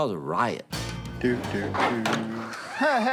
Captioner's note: hums; door opens